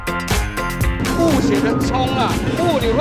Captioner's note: rushed